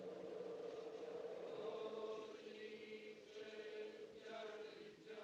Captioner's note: people Chanting In Native Language